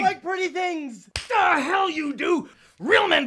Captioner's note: hand smacking